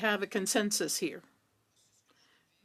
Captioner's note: speaking French